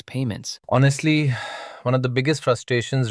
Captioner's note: sighs